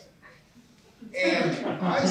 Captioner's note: laughter